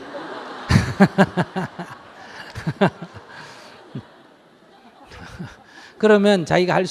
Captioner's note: audience Laughter